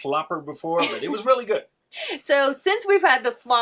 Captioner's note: laughing